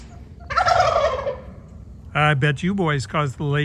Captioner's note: turkey gobbles